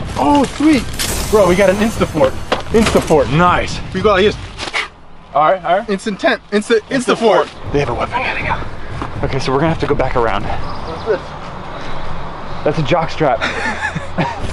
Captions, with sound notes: Sweet well, we got an insta fort. nice We go like this *WHIPISHH* All right. It's a tent,its an insta fort. They have a weapon. Okay, so we're gonna have to go back around Whats this? That's a jockstrap